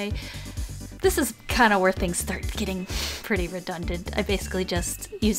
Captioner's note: sniff